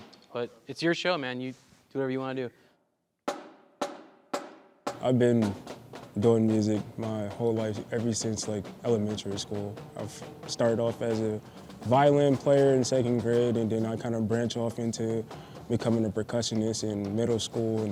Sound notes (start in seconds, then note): 3.5 drumstick tapping